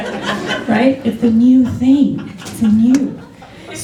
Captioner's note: laughter